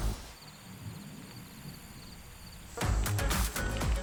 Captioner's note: upbeat music; crickets chirping; upbeat music